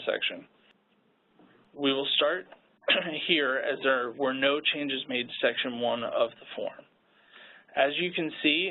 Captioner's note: coughs